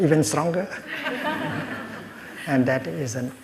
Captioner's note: laughter